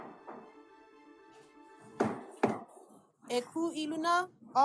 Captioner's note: gavel bangs twice